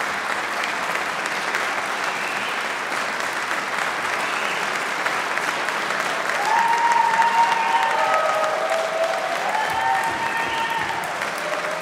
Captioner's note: applause